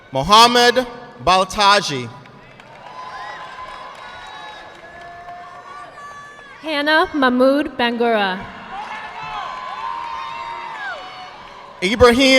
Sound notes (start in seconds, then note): 1.9 audience clapping; 8.9 audience clapping